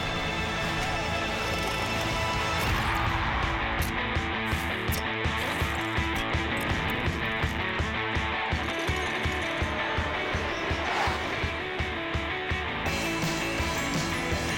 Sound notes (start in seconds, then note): 3.8 cheers and applause; 10.9 engines roar